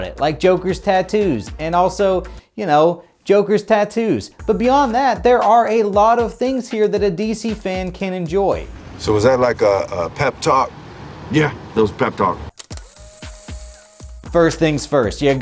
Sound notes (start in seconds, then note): 12.5 tape whirring